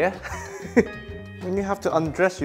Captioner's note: chuckles